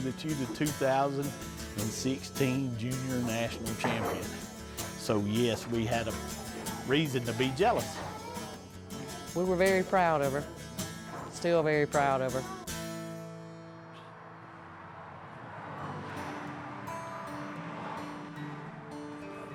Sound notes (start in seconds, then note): 12.9 cars passing; 12.9 gentle guitar music